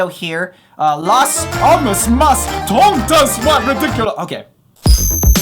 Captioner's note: trying to speak Spanish